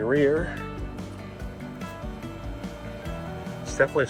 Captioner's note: motor humming